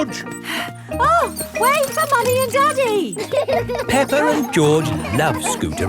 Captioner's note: panting